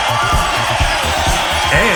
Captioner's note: horrendous screaming